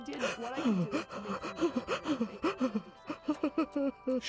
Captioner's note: sobbing